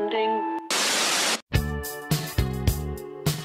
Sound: video buzzing; upbeat music

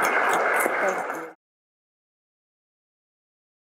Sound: audience continues to applaud

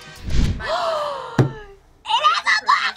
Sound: both gasp

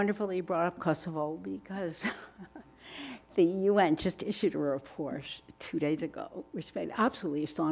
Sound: laughs

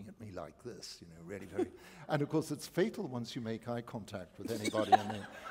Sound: laughter

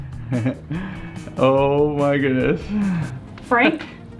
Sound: chuckles; laughs

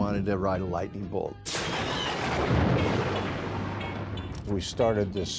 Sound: thunder crashes

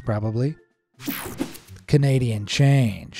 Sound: image whooshing

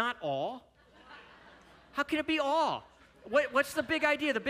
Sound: audience chuckling

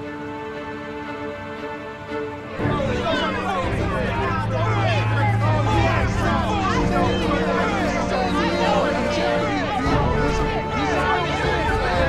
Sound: crowd ambience

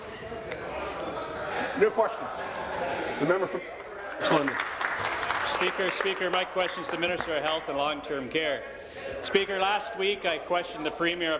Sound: applause

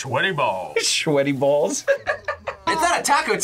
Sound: laughs

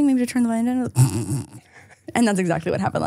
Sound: snoring

